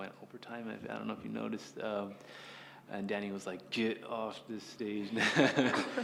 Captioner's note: laugh